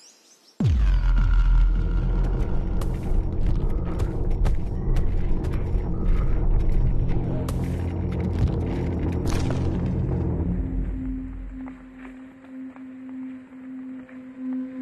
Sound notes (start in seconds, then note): 2.4 thumping; 9.1 twigs cracking; 11.6 suspenseful music